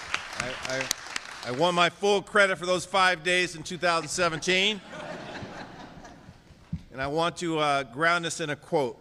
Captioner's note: applause